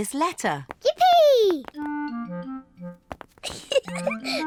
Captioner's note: giggles